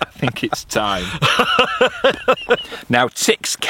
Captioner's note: laughing